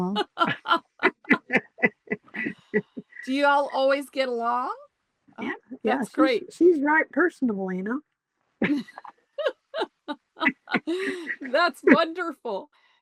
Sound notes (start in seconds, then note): 0.1 laughter; 9.3 laughter